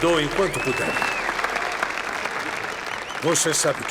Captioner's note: applause, applause continues